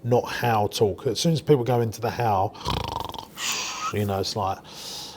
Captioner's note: snores